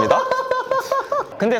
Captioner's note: laughing